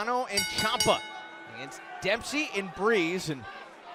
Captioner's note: bell ringing